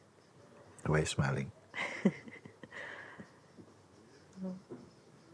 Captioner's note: questioner laughs